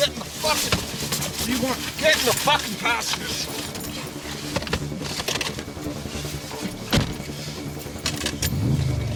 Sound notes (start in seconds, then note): 4.1 door thumping; 4.1 suspenseful music continues; 8.2 vehicle roaring; 8.6 suspenseful music continues